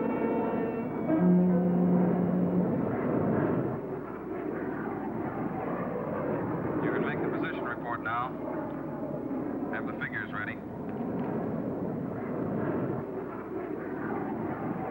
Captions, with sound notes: - [Man On Radio] You can make the position report now. Have the figures ready.